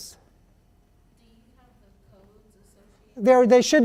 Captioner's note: voiceover